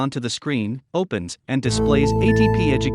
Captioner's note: audio tone